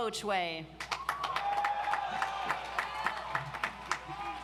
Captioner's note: audience applauds